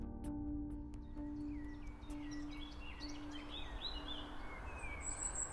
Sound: birds chirping

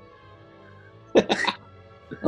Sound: laughing

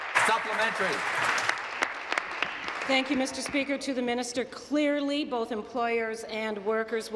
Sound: applause

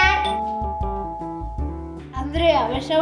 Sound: the doorbell rings

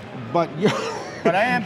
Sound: laughs

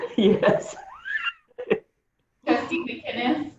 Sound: laughter

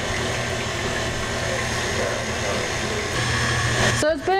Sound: machine whirring

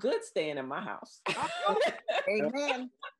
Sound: laughs

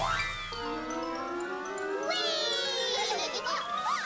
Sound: cheering

